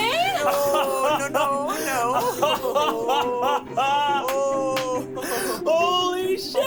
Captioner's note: gasping and laughing; laughs